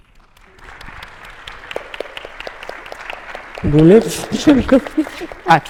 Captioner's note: attendees applauding